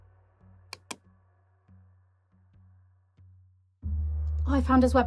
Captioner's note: computer clacking; mouse clicking